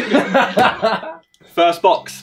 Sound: all laughing

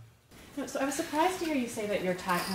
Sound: voiceover

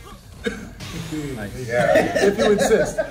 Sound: laugh

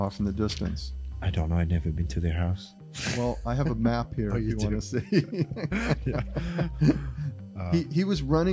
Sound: laughter

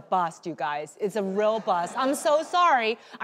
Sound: audience laughing

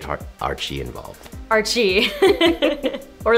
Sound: laughing

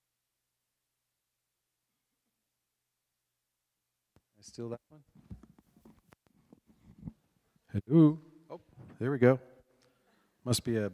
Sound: audio cut out

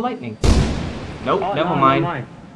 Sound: lightning

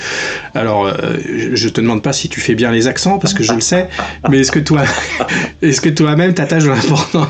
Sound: laughs

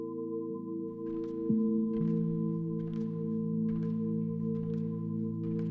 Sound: footsteps rustling

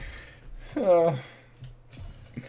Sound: desperate sigh

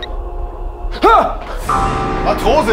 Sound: gasps

